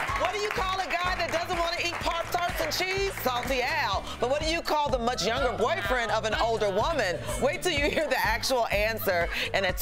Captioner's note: cheers & applause